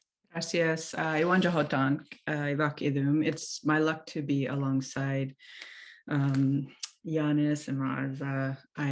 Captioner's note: non-english speech